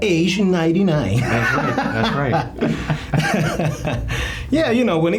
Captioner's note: laughing